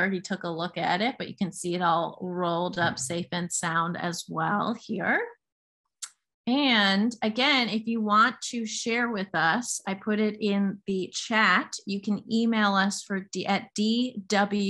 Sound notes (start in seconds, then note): 2.7 thud